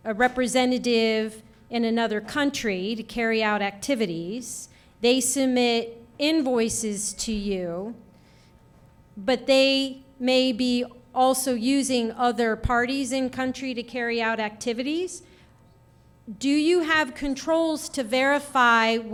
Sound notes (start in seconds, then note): none